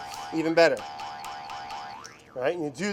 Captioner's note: spring bouncing